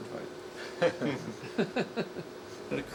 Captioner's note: laughing